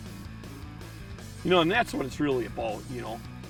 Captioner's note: voiceover